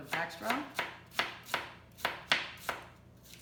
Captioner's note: chopping